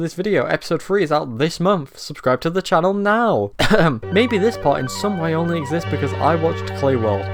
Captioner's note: coughs